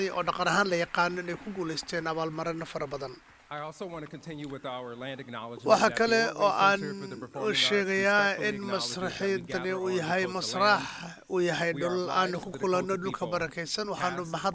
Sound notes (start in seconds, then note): 4.1 applause